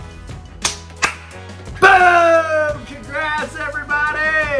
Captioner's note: clapping